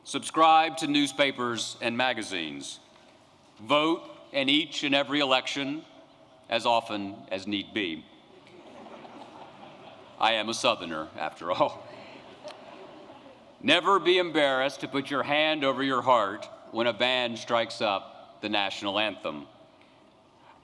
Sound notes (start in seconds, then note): 8.3 laughter